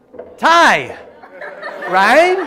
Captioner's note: laughter